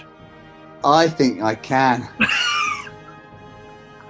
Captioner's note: laughing